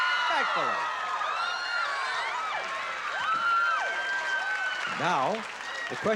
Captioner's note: cheering